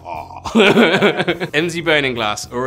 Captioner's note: laughs villainously; laughs